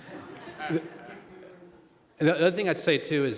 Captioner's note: laughter